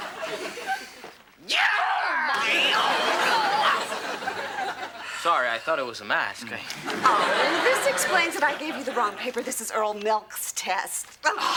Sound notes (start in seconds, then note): 1.5 George shrieking; 4.4 exclaims; 11.4 exclaims